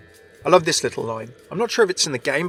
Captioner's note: voiceover